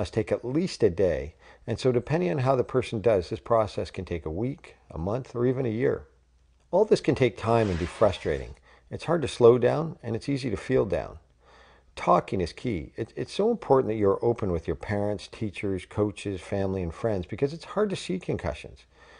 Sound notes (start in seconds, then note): 7.4 sound effect